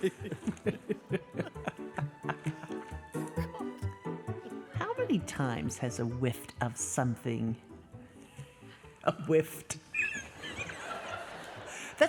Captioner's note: talking